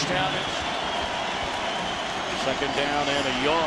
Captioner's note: crowd cheering